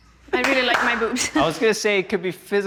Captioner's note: clapping